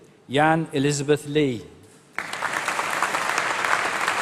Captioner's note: applause